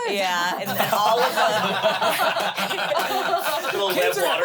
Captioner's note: everyone laughs